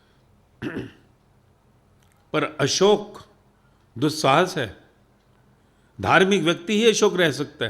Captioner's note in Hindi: गला साफ़ करने की आवाज़